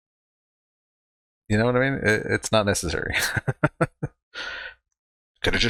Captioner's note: chuckling